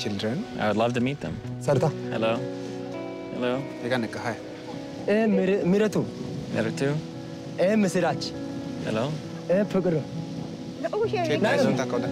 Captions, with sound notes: - I would love to meet them. - Sarta. - Hello, hello. - [speaking foreign language] - And Mehritu. - Mehritu. - And Misarach. - Hello. - And Purgaru. - [speaking foreign language]